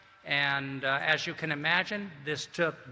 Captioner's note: none